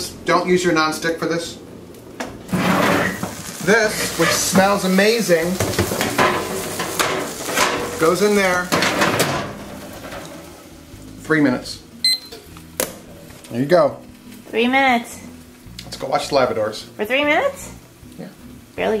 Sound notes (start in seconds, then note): 12.0 timer beeps